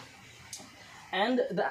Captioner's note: click